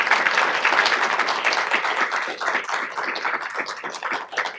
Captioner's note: audience clapping